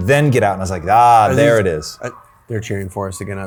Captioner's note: people cheering from outside